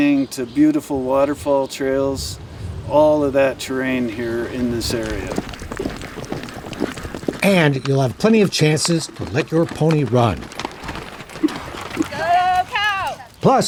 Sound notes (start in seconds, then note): 5.4 hooves clattering